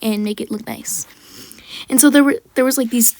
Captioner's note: slightly congested breath